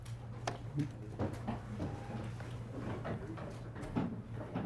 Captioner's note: students murmuring